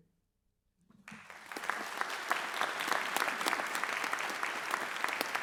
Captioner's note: audience applauds